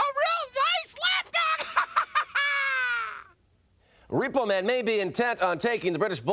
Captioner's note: laugh